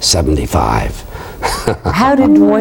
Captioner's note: laughing